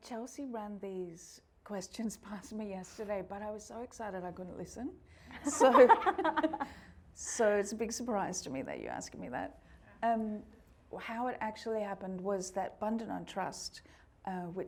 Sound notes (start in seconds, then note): 5.4 everyone laughing